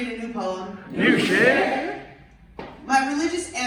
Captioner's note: audience replies